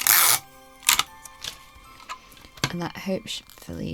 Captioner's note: tape pulling and ripping